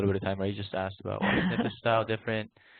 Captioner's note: laughs